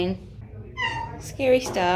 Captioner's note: meow